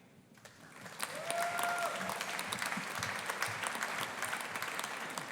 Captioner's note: audience applauding